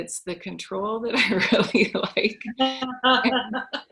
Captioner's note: laughing; laughs